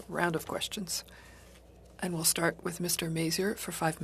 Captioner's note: speaking French